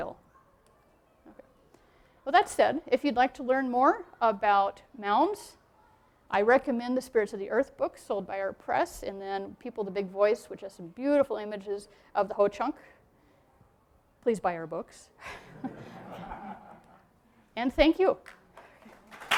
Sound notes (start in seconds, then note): 15.2 laughter